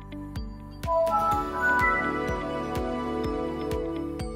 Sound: computer beeps

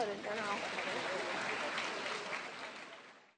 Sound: clapping

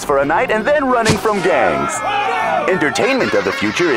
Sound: clamoring; laughing

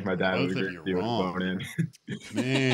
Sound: laughter

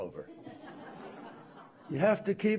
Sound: laughter

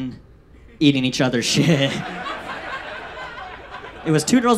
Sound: audience laughs

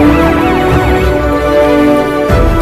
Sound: siren wailing

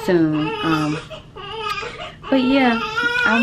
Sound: baby crying

